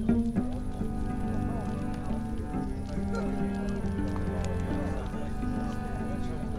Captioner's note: gentle music; men chattering